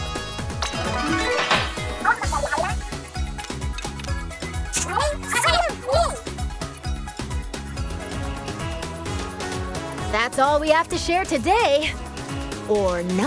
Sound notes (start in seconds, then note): 0.7 transition chime